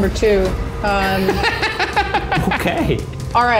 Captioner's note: laughter